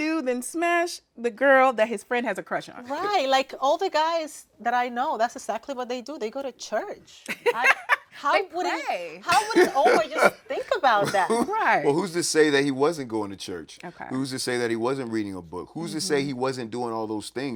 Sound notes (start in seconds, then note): 8.8 laughing